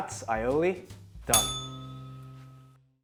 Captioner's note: bell rings